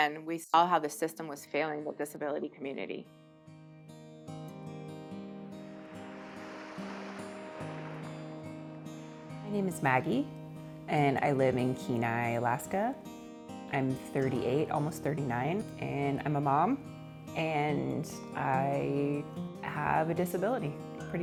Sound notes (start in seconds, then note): 4.5 gentle music; 6.2 waves crashing